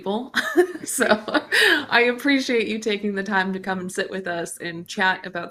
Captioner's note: chuckles